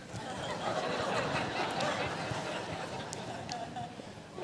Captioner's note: audience laughs